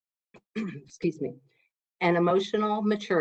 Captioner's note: clears throat